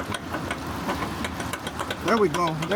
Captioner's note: tapping